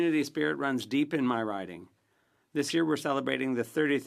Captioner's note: speaking French